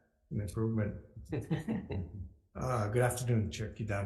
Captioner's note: laughing; laughs